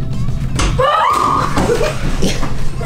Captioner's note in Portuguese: Gritos